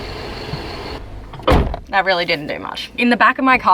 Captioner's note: slam